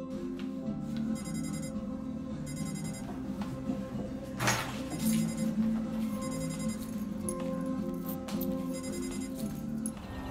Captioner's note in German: Weckerklingeln